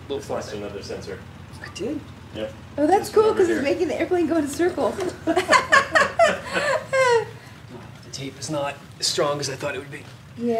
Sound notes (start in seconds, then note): 4.8 all laughing